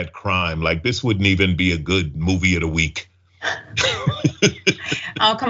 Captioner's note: laugh